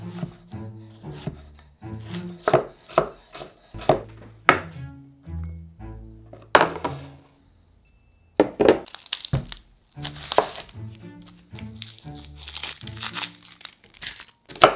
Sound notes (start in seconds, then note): 2.0 knife chopping; 11.1 onion paper rustling